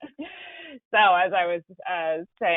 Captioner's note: laughter